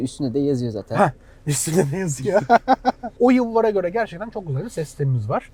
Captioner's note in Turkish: kahkaha